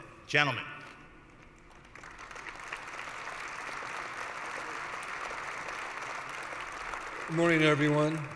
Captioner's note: applause